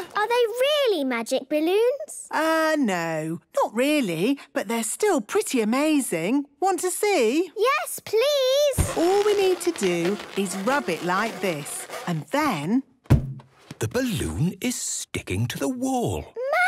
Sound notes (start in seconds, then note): 8.7 balloon rubbing; 12.7 balloon echoes